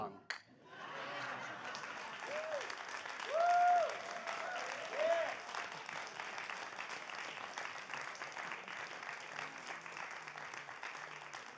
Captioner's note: applause